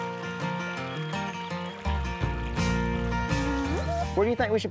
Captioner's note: stream gently rushing